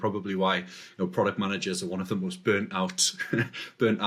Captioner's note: laughs